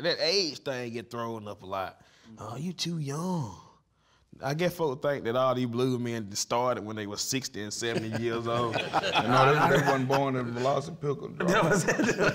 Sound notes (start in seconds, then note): 7.9 laughing